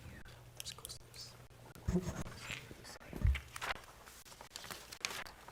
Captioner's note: board chatting quietly